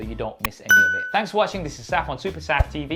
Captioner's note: bell rings